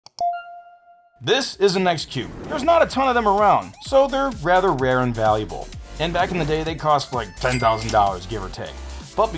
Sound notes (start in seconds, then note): 0.2 mouse clicks